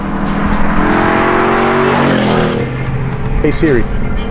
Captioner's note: revving